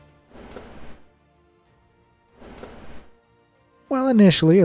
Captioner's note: flames whooshing